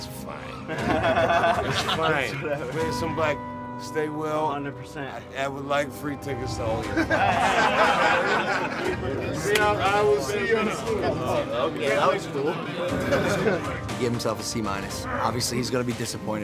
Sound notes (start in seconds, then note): 8.7 laughter; 12.3 laughs